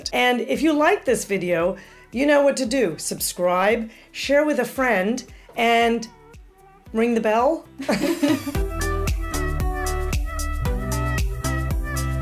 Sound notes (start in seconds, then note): 7.8 laughs; 9.5 upbeat music